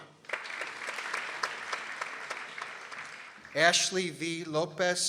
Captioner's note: people applauding